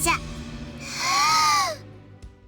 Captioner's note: inhale